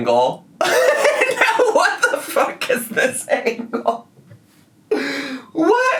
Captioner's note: laughs